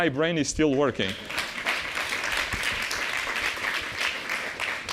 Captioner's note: applause